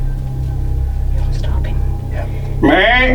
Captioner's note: whispering